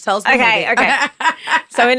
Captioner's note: laughing